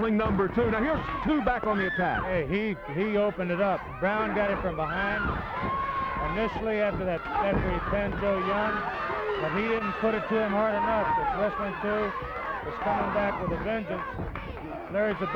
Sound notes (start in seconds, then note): 7.4 blows thudding